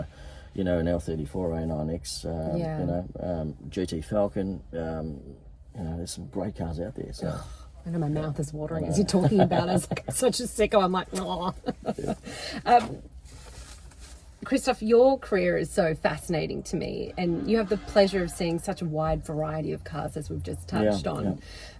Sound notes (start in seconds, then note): 11.0 laughs